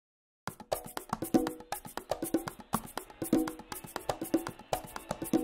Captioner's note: soundbite of archived recording